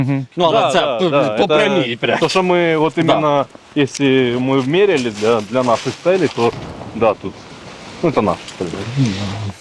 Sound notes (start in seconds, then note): 6.1 explosion sound